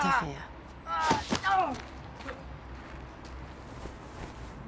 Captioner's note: man grunting